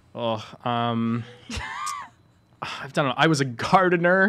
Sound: scoffs; laughing

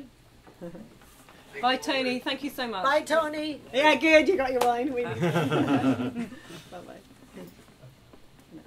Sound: laughter

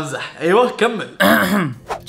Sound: clears throat

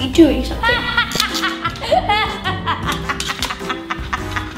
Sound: laughs

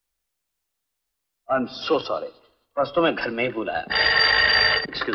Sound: phone ringing

